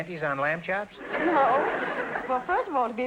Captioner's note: audience laughter